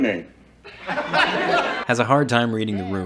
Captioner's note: audience laughing